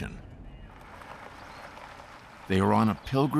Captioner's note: birds chirping